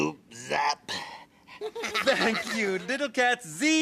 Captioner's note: Little Cats laughing